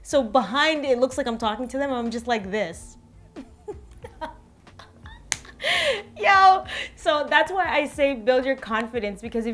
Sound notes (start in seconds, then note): 3.4 laughs